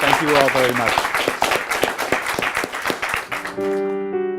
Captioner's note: applause